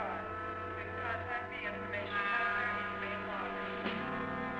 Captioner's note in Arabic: إعلانات المطار